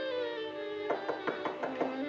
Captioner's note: knock at door